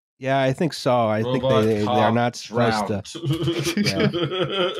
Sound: keyboard tapping; chuckles

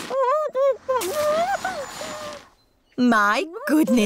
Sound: muffled groans

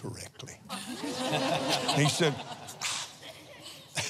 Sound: laughs

